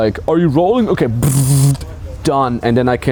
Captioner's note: imitating laser